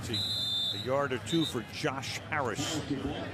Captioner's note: whistle